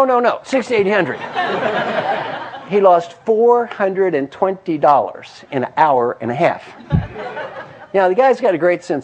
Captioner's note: laugh